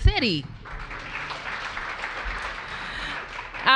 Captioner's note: applause